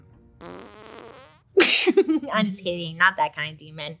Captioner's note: entity farts; laughs